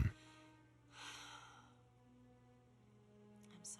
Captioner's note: sighs